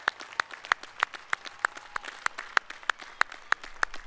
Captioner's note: applause